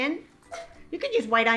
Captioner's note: onion clatters